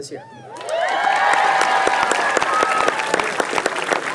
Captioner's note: applause